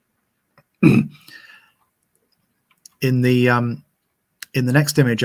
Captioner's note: clearing throat